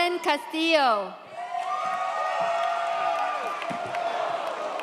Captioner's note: audience cheers